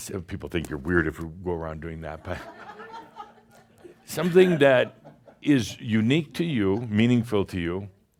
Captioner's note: some chuckles